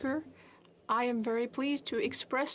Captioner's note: speaking French